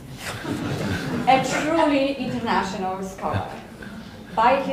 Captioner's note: audience laughing